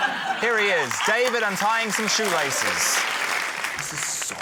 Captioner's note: applause